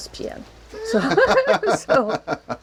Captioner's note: laughter